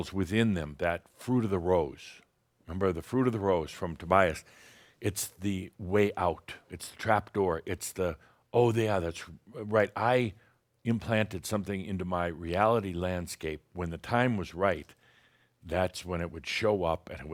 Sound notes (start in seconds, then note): none